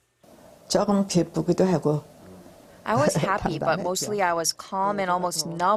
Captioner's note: Korean